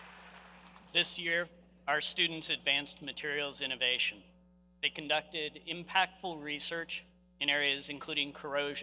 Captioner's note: applause